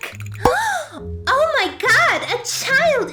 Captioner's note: dramatic gasp